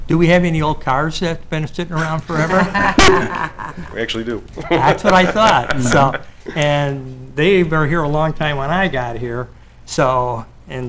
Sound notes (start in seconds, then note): 1.9 people laughing; 5.3 laughing